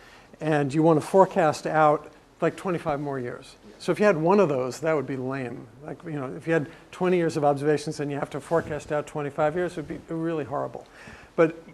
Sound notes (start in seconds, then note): none